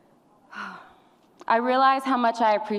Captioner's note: sighs